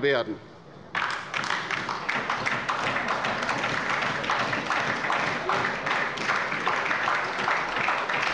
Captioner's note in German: Beifall bei der LINKEN und der SPD